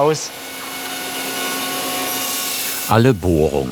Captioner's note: machine whirring